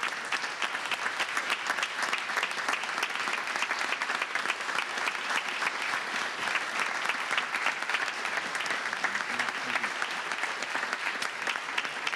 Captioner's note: applause